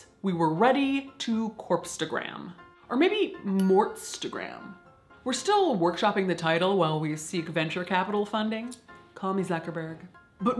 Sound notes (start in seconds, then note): 3.5 bell rings